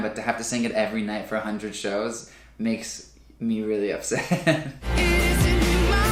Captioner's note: laughs